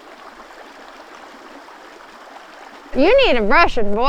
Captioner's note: water splashing